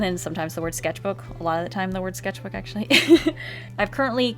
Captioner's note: laughs